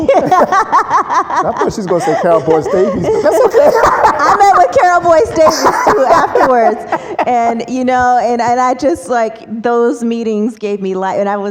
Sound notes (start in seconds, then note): 3.7 laughs